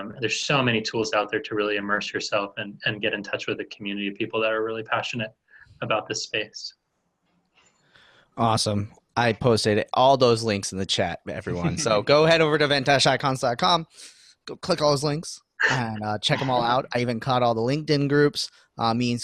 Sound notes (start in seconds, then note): 15.6 laughing